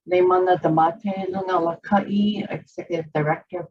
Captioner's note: foreign language